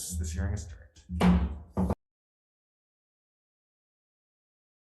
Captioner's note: gavel slams